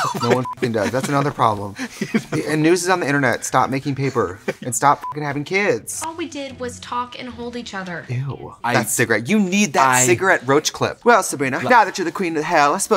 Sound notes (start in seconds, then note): 0.0 laughing; 0.4 beep; 5.0 beep